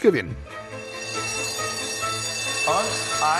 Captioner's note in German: Klingeln